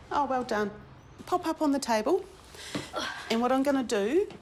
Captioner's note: grunts